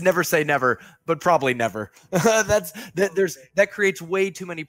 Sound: laughs

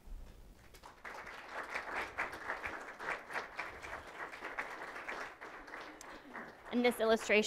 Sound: applause

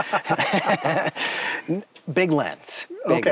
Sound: laughing

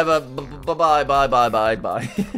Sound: laughs

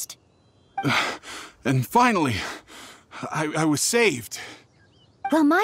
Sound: catches breath

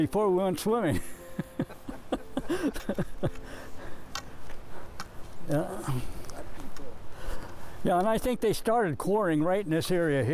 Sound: laughs

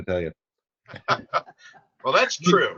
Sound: chuckling

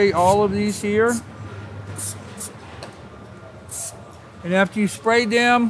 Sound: spray can hissing

